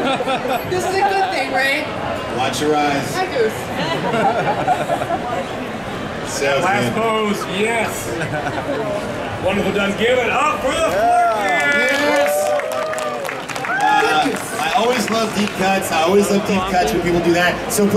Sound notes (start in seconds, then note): 3.7 audience and announcers laughing; 10.6 audience cheering